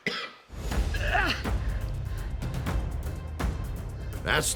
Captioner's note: coughing; grunting